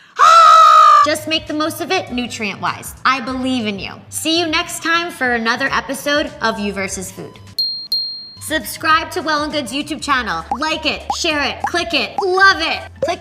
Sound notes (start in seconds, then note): 0.1 screaming; 7.6 dinging